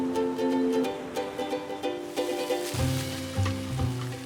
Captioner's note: water splashes